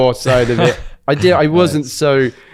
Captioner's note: laughs